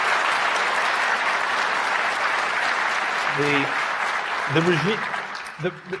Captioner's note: applause